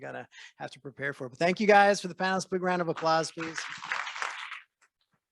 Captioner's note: applause